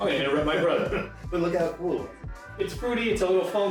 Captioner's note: laughing